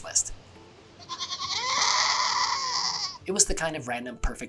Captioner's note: goat yelling